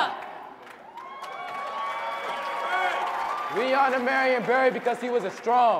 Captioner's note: audience cheering and clapping